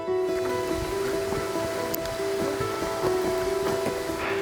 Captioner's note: water hissing